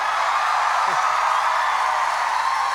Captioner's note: applause